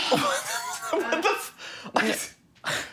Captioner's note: laughter